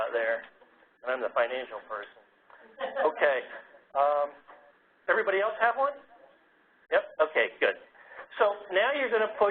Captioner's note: laugh